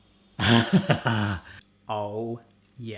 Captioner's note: laughing